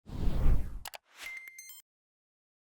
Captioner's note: wind whipping; mouse clicking; typewriter beeping